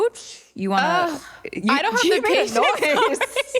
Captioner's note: sighs; laughter